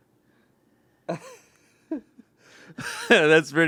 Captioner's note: laughs